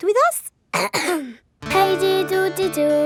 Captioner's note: clears throat